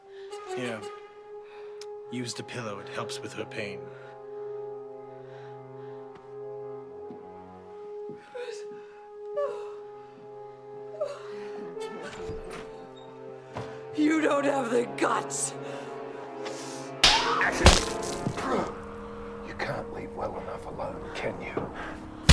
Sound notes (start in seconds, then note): 5.4 ominous music; 10.8 laughing; 17.0 slapping; 17.0 smacking